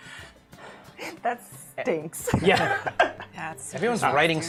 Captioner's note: laughs